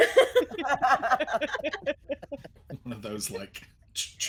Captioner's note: all laughing